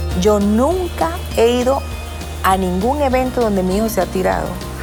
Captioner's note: speaking Spanish